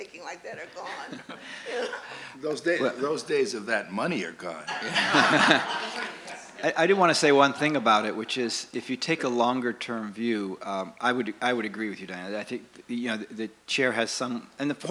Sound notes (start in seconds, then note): 0.8 laughs; 4.6 laughter